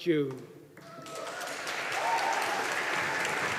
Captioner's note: audience applauding